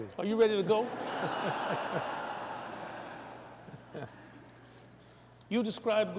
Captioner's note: laughter